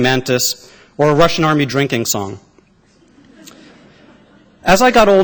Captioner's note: laughter